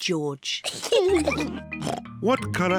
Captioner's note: both giggle